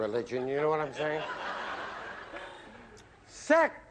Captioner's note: laughter